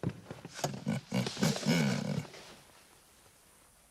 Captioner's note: chuckles